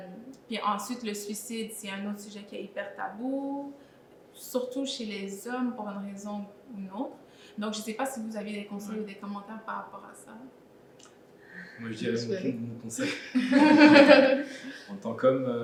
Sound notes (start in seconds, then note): 13.0 laugh